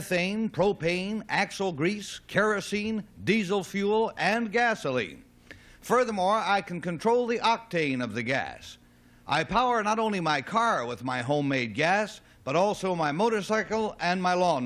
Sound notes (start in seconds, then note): none